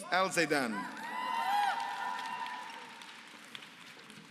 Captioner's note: applause